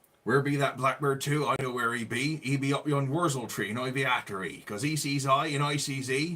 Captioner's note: speaking West Country English